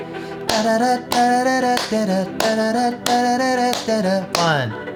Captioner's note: clapping and vocalizing the beat